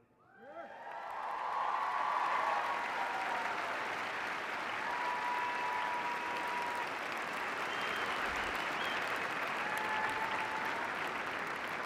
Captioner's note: cheers and applause